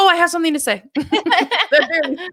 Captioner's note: laughing